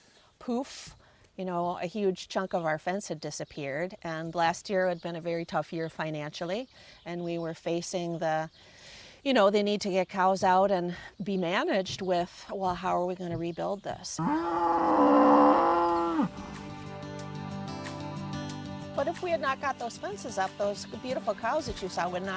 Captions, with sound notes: poof, you know, a huge chunk of our fence had disappeared and last year had been a very tough year, financially and we were facing the, you know, the need to get cows out and be managed with how are we going to rebuild this. [cows moo] But if we had not got those fences up, those beautiful cows that you saw